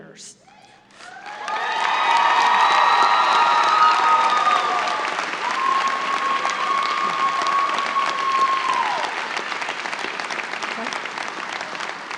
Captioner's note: applause and cheers